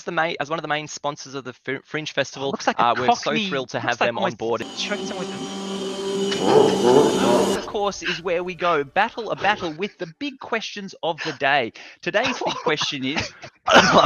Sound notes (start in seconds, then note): 4.6 dramatic music; 6.3 demonic laugh